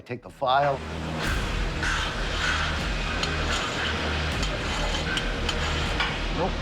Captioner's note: metal scratching